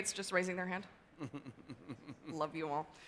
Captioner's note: laughs